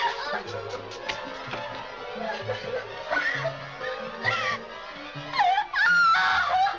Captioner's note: dramatic music; Mary crying; Mary shrieks